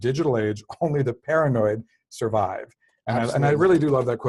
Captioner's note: laugh